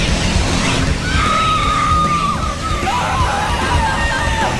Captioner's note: screaming